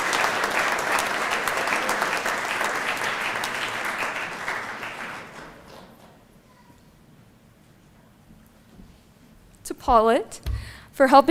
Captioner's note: applause